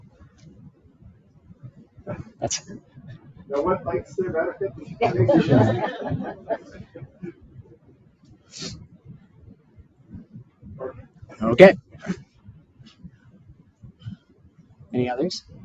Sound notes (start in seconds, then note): 4.1 participants laughing